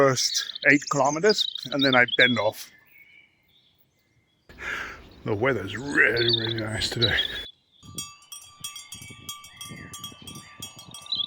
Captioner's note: cow bells